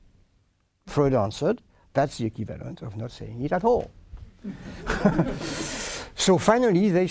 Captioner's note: laughter